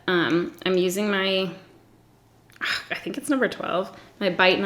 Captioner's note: sighs